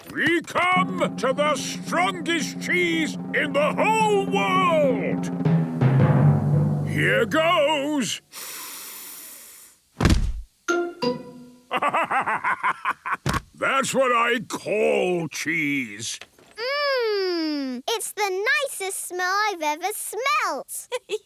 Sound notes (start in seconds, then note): 5.7 dramatic drumming music; 9.1 sniffs; 11.7 bursting laughter